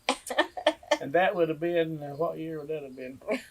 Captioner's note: laughs